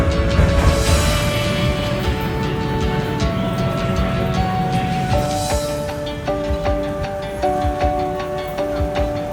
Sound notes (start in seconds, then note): 2.4 people conversing